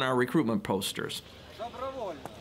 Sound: non-english speech

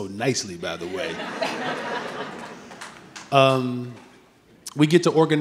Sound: audience laughing

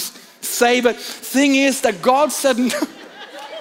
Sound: laughs

